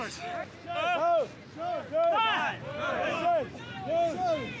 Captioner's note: trainees shouting